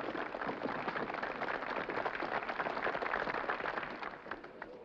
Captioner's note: applause